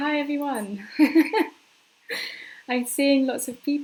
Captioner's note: laughing